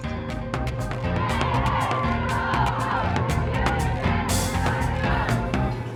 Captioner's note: chanting